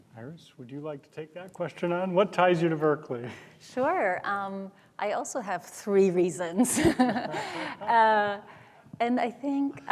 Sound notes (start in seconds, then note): 6.6 chuckles